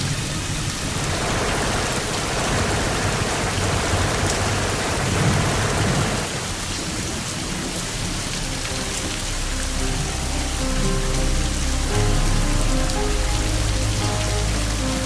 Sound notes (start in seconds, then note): 3.5 shots firing; 12.1 dramatic music